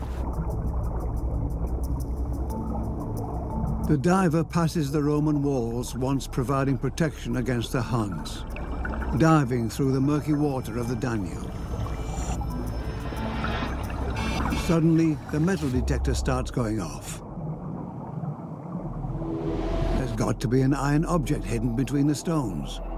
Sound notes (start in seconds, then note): 0.2 water bubbling and quiet, suspenseful music; 12.0 beeping